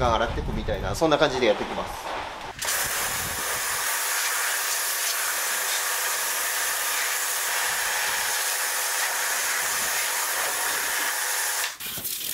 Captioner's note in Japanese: シャワー音